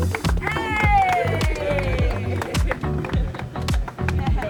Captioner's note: students cheering and clapping